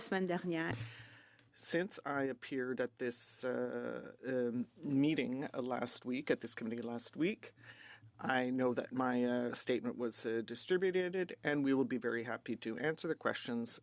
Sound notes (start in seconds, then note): 2.4 speaking French